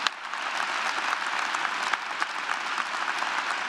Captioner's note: applause